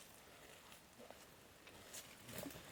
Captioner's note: rustles